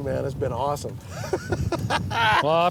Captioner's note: laughing